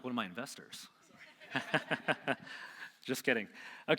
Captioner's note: laughing